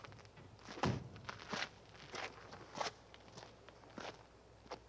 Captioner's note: door slamming, footsteps on gravel